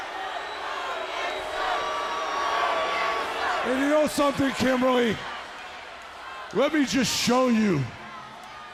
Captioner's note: crowd chatter